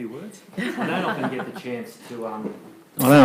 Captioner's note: laughing